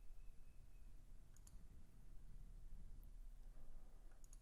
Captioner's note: clicking